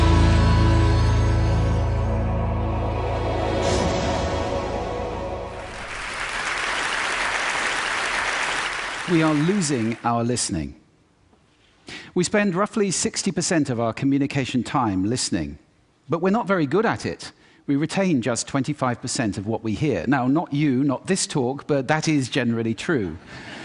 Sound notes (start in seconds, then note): 0.0 soft Intro Music; 5.5 applause